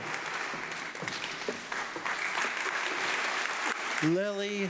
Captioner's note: audience clapping